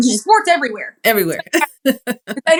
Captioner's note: laugh